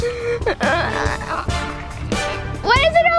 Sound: groans

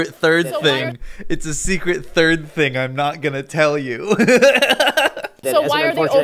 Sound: laughs

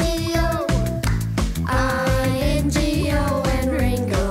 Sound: clap!

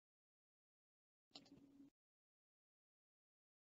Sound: mouse clicking

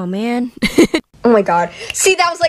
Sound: laughs

